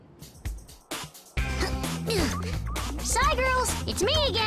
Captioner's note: grunts